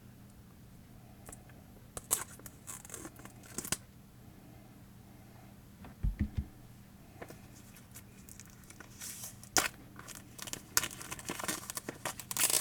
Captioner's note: opening tarot box, plastic crinkling